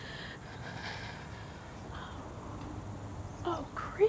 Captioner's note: breathes heavy